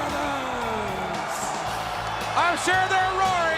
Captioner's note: crowd cheering